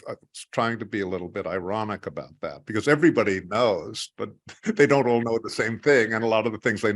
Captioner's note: laugh